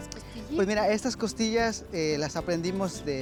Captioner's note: speaks Spanish; speaking Spanish